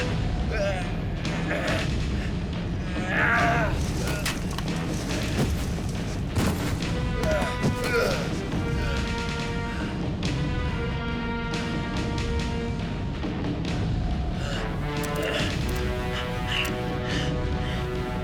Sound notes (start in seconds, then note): 0.4 grunting; 6.5 grunting; 8.7 suspenseful orchestral music